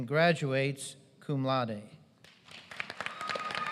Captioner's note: applause